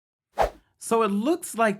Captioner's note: whooshing effect